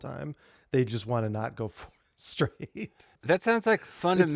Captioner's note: laughing